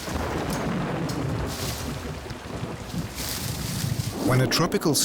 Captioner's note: thunder rumbling